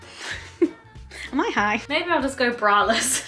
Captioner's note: laughs quickly